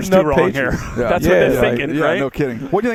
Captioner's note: laughs